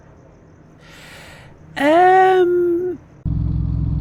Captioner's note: long inhale